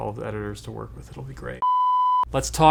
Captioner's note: electronic beeping